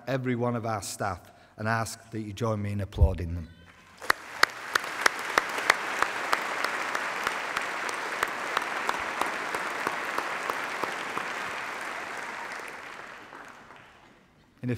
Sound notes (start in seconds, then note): 3.6 applause